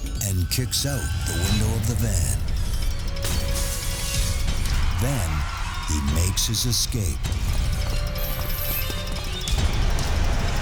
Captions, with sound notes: And kicks out the window of the van. [glass shattering] Then he makes his escape. [dramatic music]